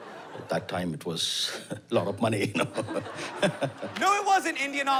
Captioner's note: laughs